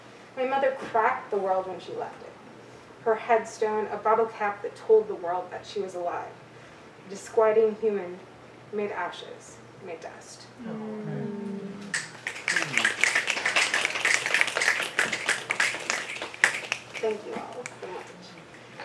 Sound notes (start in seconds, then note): 11.7 audience mms and snaps